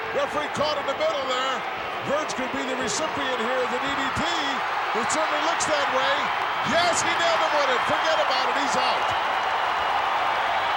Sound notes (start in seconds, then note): 9.1 applause